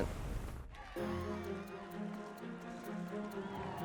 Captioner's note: crowd cheering